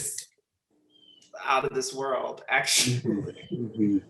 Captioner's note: laughs